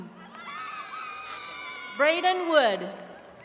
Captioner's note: attendees cheering